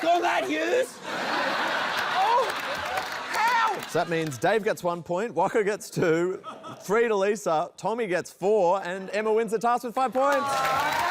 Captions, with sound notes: Suck on that, Hughes! [LAUGHTER] Oh! How?! So, that means Dave gets 1 point, Waka gets 2, 3 to Lisa, Tommy gets 4, and Emma wins the task with 5 points!